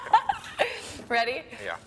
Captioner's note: laughing